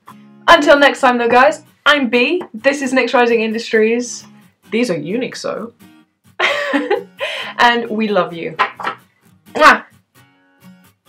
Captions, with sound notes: Until next time though guys, I'm Bee! This is NyxRising Industries! These are UNIQSO. [Laugh] And we love you!! MWAH!